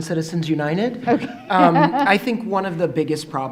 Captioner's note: laughing